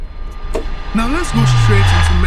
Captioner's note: humming